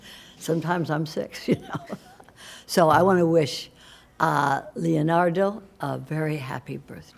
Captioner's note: laughter